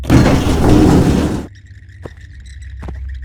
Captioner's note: door opens; footsteps fall